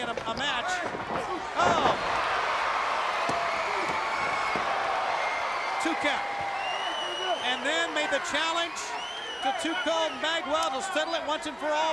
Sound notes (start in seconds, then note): 3.0 crowd cheering